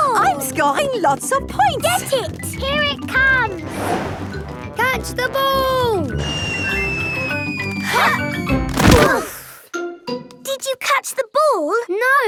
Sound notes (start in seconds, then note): 3.6 whoosh; 6.1 whistling through air